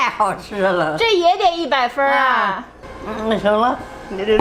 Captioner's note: speaking Chinese; grandma speaking Chinese